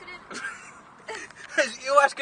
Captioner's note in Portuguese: Risos